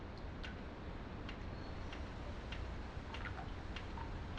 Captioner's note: water dripping